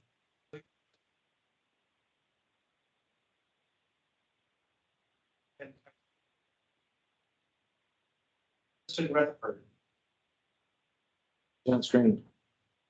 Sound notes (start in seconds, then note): 1.6 audio cuts out